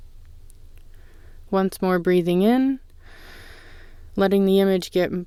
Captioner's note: inhale